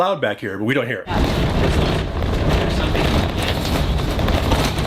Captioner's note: RV clatters